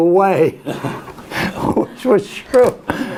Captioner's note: laughs